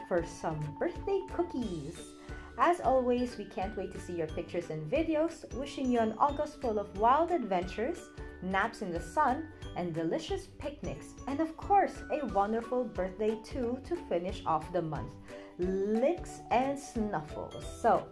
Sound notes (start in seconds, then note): none